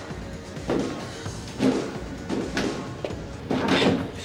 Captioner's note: grunts